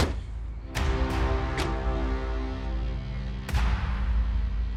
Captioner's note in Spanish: Portazos